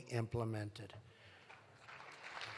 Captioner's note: applause